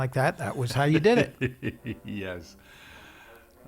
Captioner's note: laughs